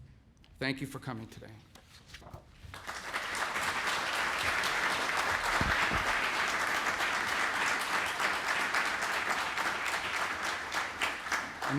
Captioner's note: applause